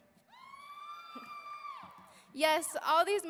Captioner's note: audience cheering